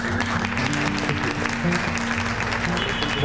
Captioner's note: applause